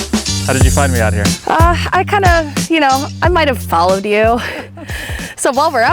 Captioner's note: laughs